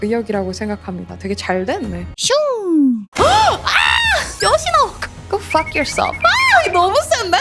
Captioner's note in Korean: 비명